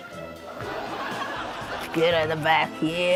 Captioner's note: laughter